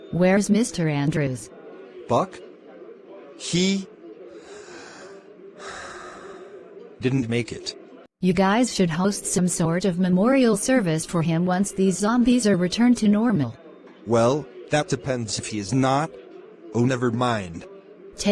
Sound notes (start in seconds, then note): 5.6 sighs